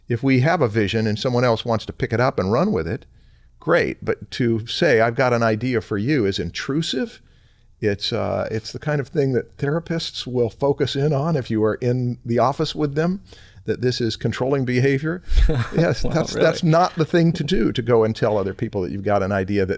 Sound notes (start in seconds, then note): 15.2 chuckle